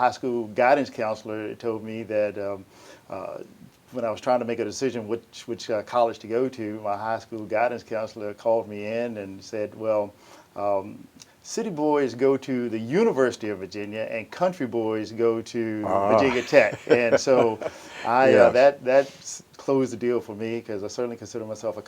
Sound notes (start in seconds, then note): 15.8 chuckles